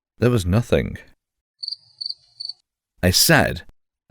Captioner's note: cricket chirping